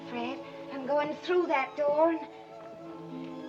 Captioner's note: none